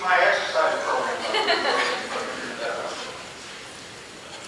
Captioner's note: laughing